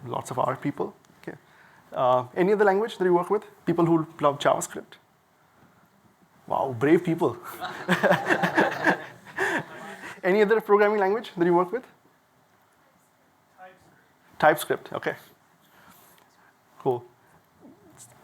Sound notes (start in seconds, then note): 7.5 laughter